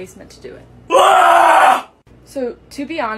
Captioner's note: unholy scream from the pits of hell